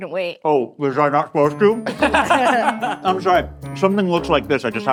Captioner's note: all laughing